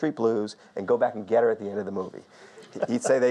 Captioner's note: audience laughs softly